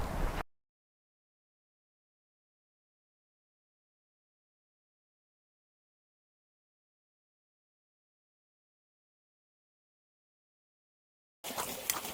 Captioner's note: silence of the void